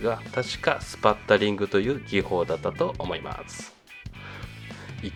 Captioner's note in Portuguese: respingo